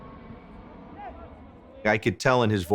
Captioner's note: airplane softly whirs